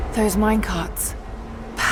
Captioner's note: none